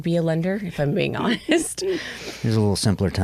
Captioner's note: chuckles